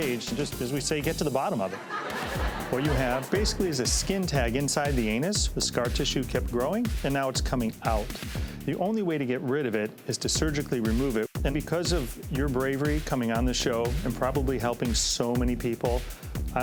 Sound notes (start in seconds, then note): 1.4 audience laughs